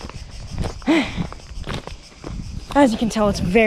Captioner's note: sigh